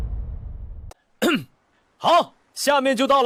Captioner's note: cough